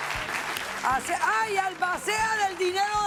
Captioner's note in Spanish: Aplausos